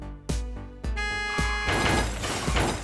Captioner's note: car horn